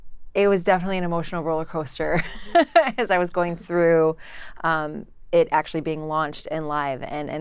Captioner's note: laugh